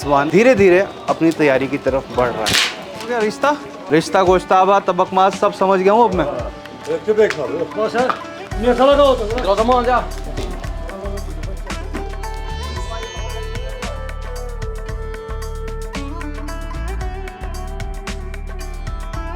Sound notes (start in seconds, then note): 6.8 kashmiri Language